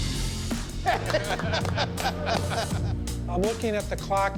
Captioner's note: laughter, clapping